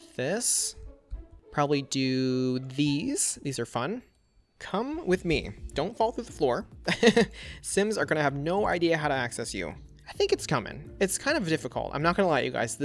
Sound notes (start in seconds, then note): 6.9 laughs